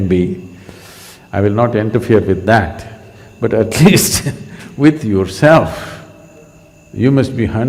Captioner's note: laughs